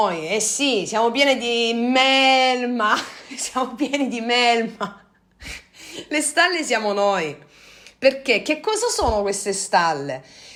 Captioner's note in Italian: risate